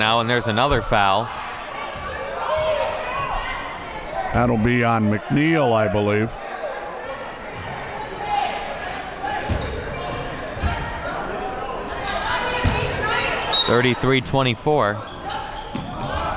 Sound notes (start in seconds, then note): 13.4 whistle blows